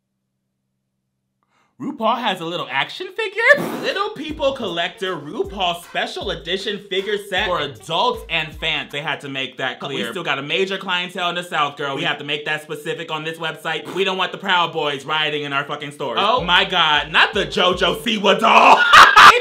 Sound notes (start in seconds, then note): 3.4 blows raspberry; 18.5 laughing